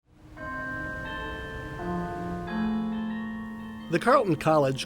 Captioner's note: bells tolling